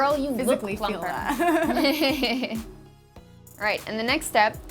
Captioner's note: laughs